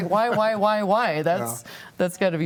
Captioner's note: laughs